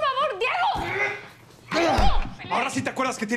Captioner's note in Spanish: Ruidos de la riña